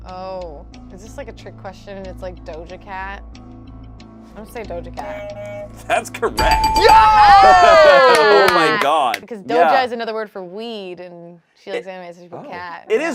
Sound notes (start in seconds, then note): 6.4 buzzer rings; 6.4 bell dings; 6.4 group cheers